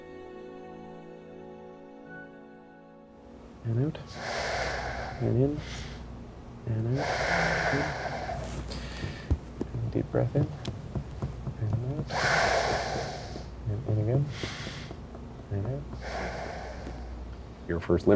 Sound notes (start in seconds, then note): 3.4 breathing; 7.5 exhalation; 12.5 exhalation; 14.4 inhalation; 16.2 exhalation